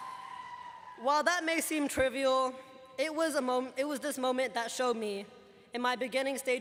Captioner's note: cheers and applause